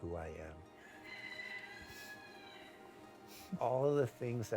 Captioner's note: rooster crowing